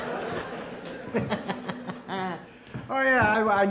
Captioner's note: audience laughing; Blue laughs